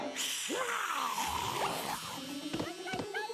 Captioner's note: snarling; yelping